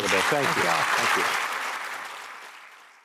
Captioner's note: applause